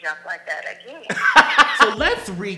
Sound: loud laugh

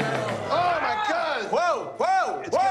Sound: shouting

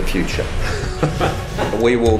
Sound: evil chuckles

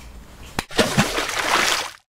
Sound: water splashes loudly; hands clapping softly

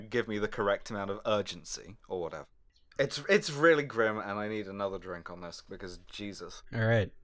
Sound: slurring

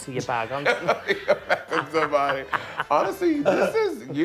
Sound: laughing

